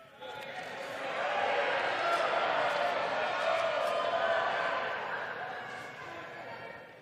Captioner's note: crowd chanting